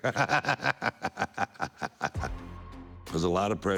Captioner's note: Booker laughing